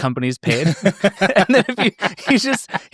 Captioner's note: laughing